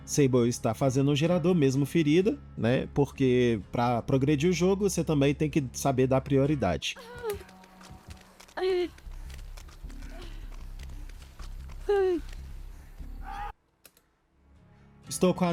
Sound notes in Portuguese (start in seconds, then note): 13.2 gemido